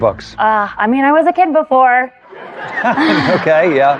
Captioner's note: laughter